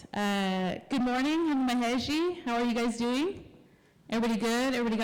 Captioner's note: non-english